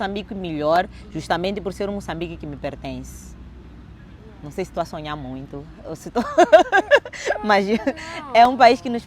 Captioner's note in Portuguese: riso